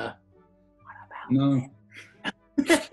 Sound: whispers; laughter

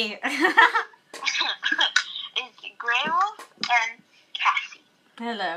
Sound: chuckles

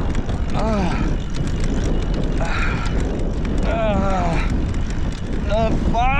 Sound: gasping

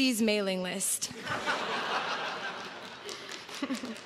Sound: crowd laughs

